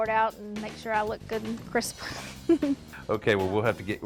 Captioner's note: chuckles